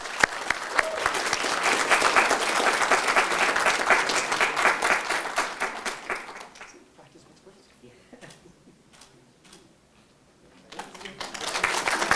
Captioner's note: audience Applause